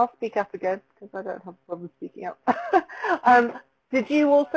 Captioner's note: laughs